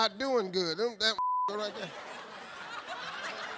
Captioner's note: beep; audience laughing